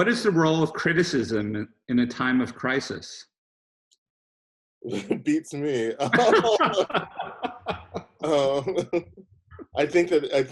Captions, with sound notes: - What is the role of criticism in a time of crisis? - (chuckles) Beats me. (both laughing)